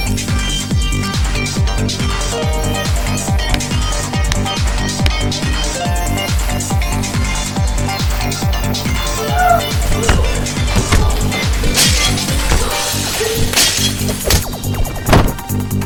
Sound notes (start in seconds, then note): 11.8 glass shattering